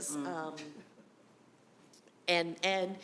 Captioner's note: chuckling